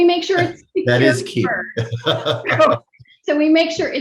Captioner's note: laughs